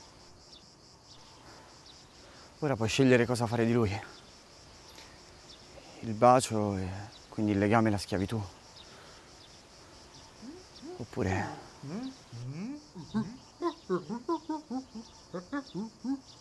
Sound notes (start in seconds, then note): 13.6 grunts